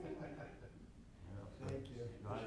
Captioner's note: people chuckling